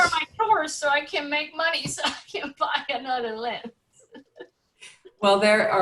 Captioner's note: laughs